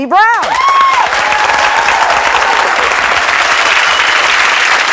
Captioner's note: audience cheering and clapping